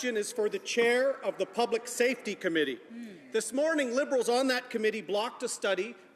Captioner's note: none